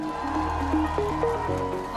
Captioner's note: cheers, applause